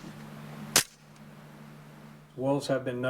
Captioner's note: clamp snaps